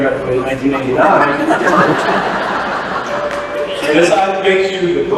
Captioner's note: laughter